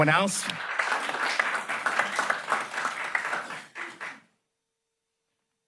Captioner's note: applause